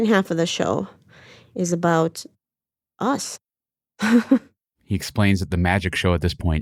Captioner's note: laughs